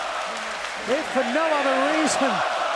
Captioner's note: fans chanting